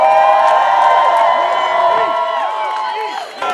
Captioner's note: cheering